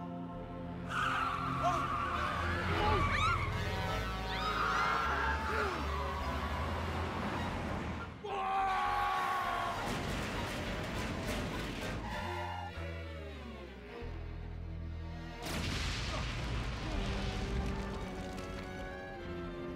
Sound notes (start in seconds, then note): 3.3 truck horn blaring; 8.3 yelling; 15.4 explosion